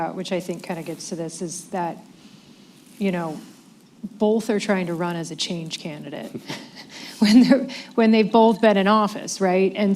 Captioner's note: laughs